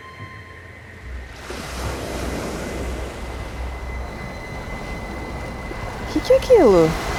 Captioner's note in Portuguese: ondas do mar